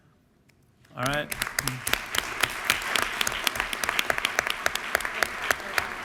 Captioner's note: applause